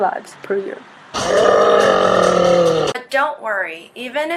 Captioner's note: groans and hollers in pain